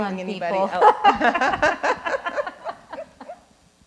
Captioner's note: both laughs